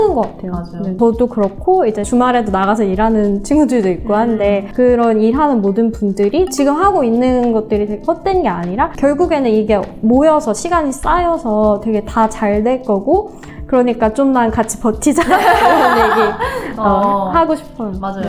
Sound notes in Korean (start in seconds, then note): 15.2 웃음